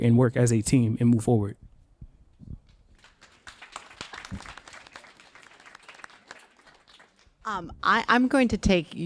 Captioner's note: applause